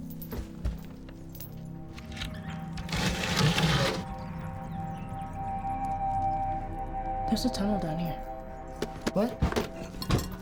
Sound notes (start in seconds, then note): 2.7 door scrapes